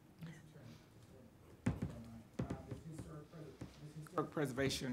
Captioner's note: woman speaking faintly